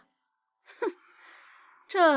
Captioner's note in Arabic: يضحك بسخرية